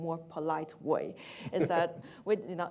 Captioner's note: laughs